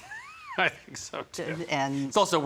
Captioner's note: laughing